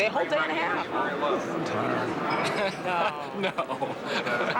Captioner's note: laughing